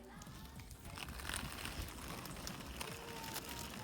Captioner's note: wheels rolling across pavement